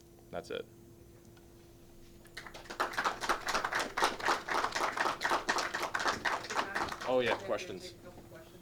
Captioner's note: clapping